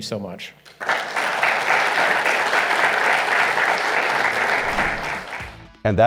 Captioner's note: applause